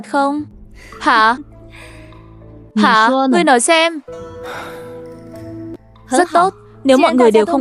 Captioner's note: sigh